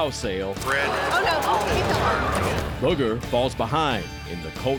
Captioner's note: thud